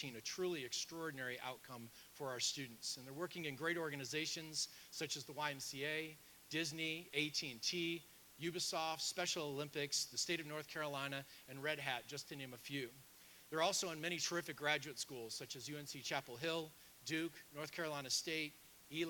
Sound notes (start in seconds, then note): none